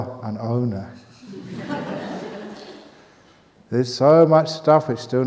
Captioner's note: laughter